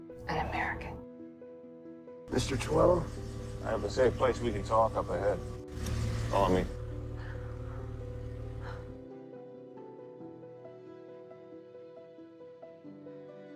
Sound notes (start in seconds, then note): 0.4 voiceover; 6.3 voiceover; 6.9 Serena sighs